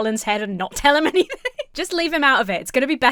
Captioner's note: laughs